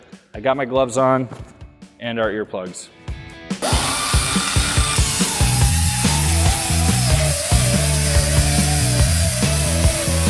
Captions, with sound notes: I got my gloves on, and our earplugs. (grinding)